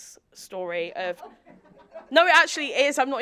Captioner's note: audience laughing